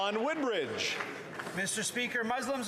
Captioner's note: applause